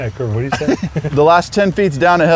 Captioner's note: laughs